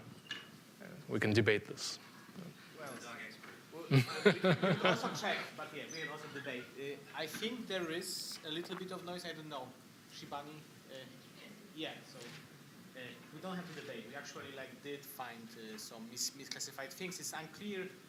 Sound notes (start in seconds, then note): 5.8 laughter